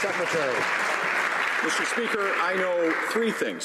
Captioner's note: some Applause